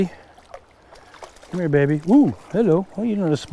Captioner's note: fish splashing